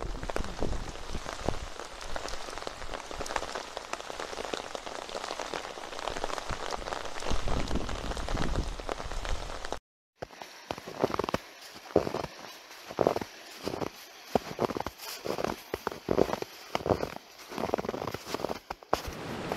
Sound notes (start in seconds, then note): 0.0 rain sound; 10.6 snow crunch sound